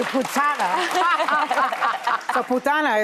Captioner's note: audience laughing